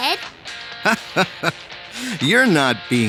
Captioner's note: chuckling